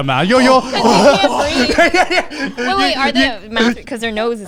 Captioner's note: all laughing